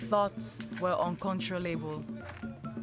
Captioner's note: footsteps on grass